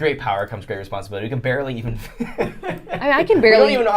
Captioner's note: laughing